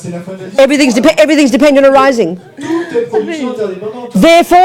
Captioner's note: speaking in French